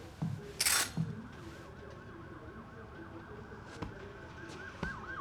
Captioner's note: siren wailing